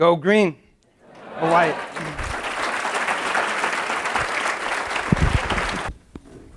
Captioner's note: audience laughs; applause